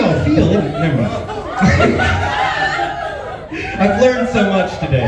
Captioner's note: laughs